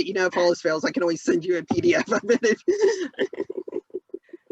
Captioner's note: laughs